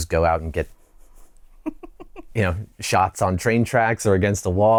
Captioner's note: laughter